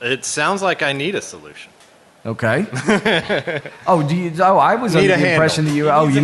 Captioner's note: laughter